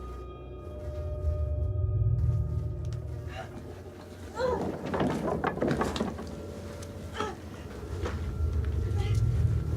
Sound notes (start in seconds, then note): 0.9 wind blowing; 4.3 skulls and bones rattling